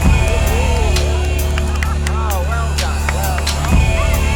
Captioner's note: people cheering